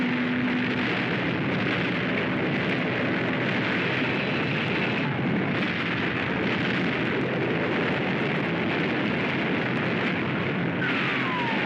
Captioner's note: artillery fires; sounds of chaos & destruction; explosions